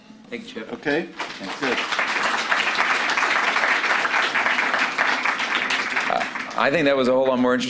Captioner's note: applause